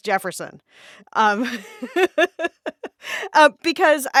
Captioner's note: laughter